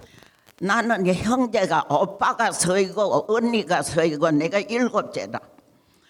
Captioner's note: speaking in foreign language